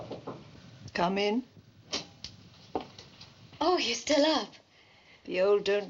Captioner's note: Knocking